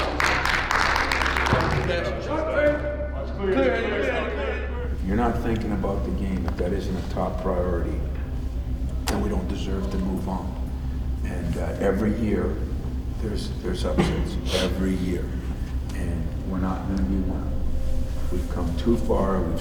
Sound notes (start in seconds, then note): 0.0 team applauds; 2.1 team yells plays